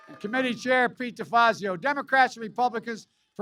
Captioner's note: applause